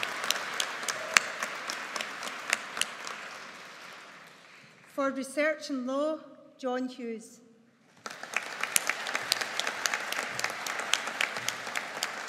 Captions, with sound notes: For research in Law, John Hughes. (AUDIENCE APPLAUDING)